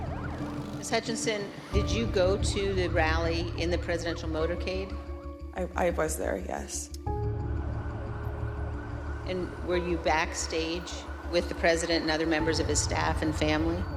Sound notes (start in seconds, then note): 7.2 siren blaring